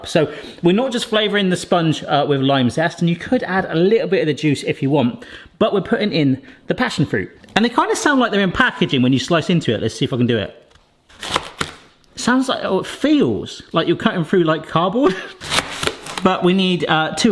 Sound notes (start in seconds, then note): 11.1 passion fruit crunching; 15.4 passion fruit crunching